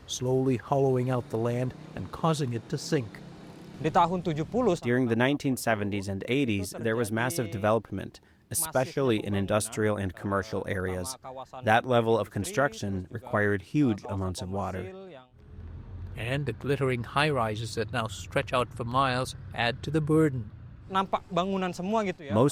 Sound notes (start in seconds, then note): 5.5 through translator